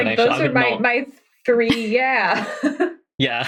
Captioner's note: laughs